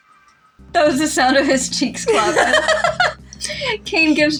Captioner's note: laugh